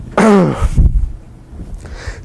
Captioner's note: cough